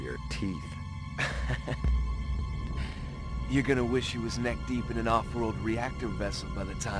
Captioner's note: laughs